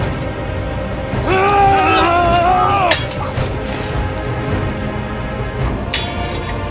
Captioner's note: swords clanging; men grunting